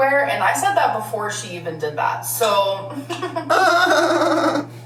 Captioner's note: laughs